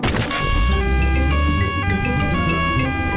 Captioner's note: siren wailing